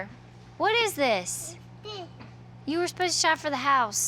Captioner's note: babbles